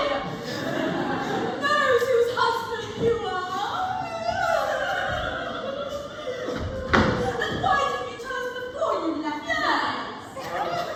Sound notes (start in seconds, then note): 3.1 more sobbing